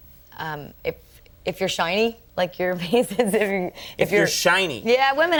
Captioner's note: chuckles